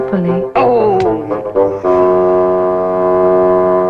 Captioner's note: groans